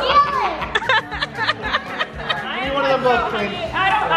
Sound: laughing

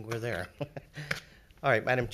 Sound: laughing

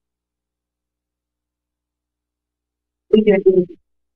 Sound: silence

